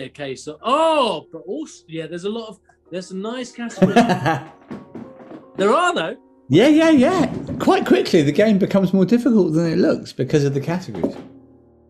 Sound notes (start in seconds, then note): 3.7 laughing